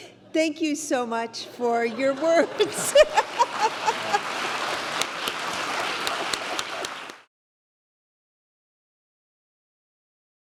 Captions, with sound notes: Thank you so much for your words. [LAUGHS] [APPLAUSE]